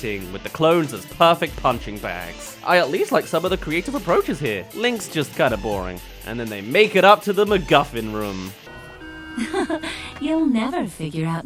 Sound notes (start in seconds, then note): 9.2 chuckle